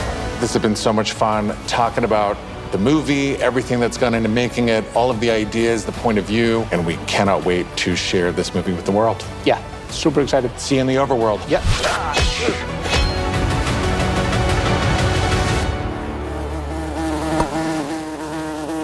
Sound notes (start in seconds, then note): 12.8 clanging; 13.6 epic music; 15.8 buzzing